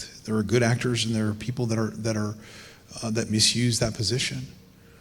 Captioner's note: none